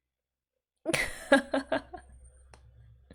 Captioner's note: laughs